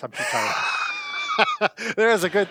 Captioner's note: laughs